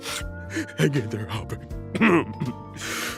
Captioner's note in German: schnief